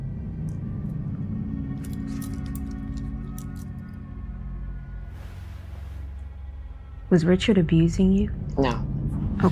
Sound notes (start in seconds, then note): 0.0 tense music; 1.1 metal clinking